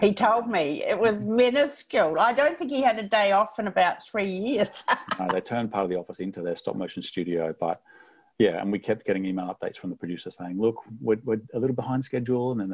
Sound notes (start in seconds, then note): 4.8 laughs